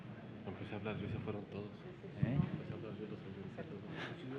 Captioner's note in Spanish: susurros